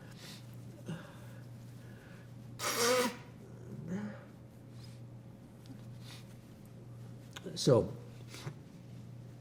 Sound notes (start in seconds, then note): 0.7 sniffing, wiping nose